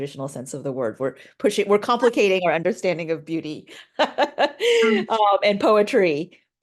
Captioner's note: laughing